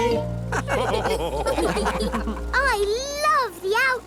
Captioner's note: all laugh